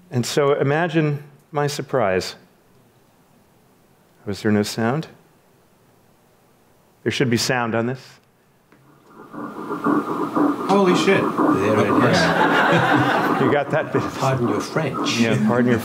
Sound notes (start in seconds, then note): 10.5 heart beats; 13.6 audience laughs